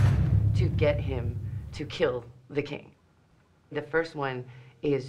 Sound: door slams shut

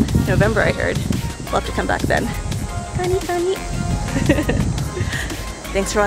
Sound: giggle

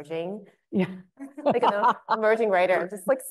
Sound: laughing

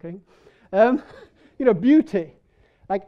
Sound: people laughing

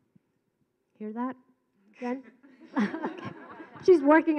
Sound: laughing

